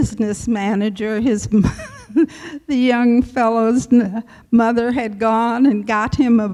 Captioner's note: laughs